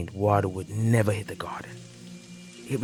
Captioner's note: rain falls